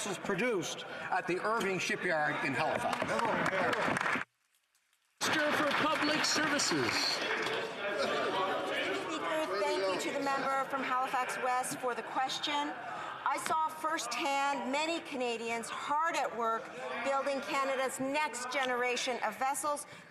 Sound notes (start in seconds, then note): 9.2 some Applause